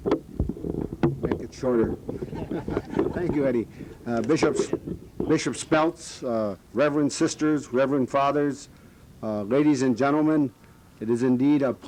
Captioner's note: laughter